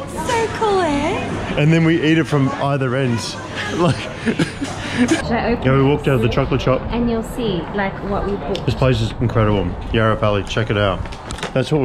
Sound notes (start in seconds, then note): 3.4 laughing